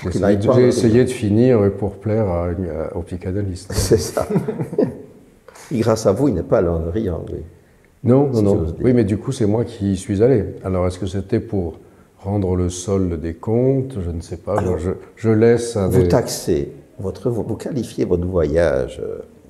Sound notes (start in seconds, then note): 4.0 laughter